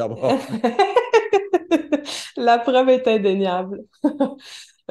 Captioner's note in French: rires